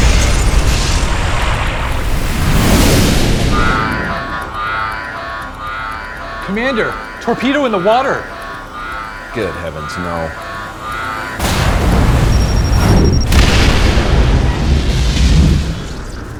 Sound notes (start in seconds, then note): 0.0 tense music; 0.0 torpedo rushing; 3.7 alarms blaring; 11.3 torpedo rushing; 13.1 explosion roaring